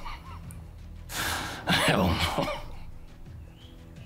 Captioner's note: laughs